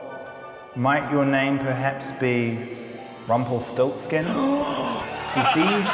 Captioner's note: gasps